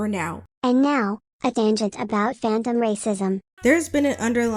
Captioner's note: robot voice